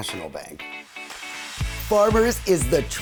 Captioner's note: air swooshing